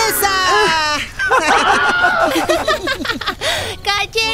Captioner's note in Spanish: Risas